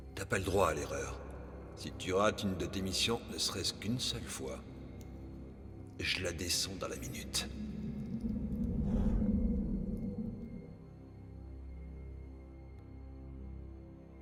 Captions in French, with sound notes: Ne vous y trompez pas, vous ne parvenez jamais à le faire pour moi, et elle meurt le même jour. (souffle d'air) (musique douce et tendue)